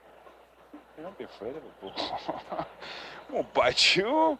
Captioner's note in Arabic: يضحك